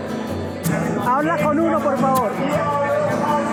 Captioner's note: in Spanish